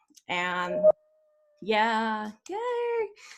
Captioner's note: notification dings